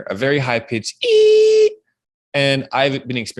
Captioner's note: wails